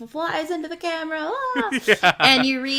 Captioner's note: laughs